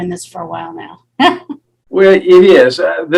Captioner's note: giggling